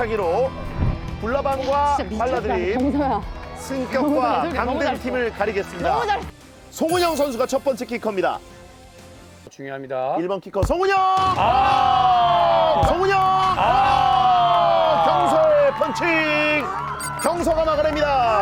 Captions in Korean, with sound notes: 결국 승부차기로 불나방과 발라드팀 강등 팀을 가리겠습니다. -너무 잘했어. 송은영 선수가 첫 번째 키커입니다. -(호루라기 소리) -송은영 중요합니다. 1번 키커 송은영. 송은영! 경서의 펀칭. 경서가 막아냅니다.